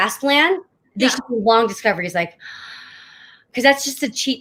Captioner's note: taking long deep breath